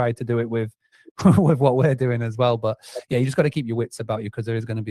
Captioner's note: laughs